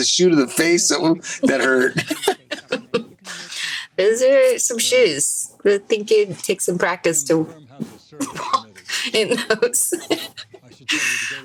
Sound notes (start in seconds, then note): 2.3 all chuckle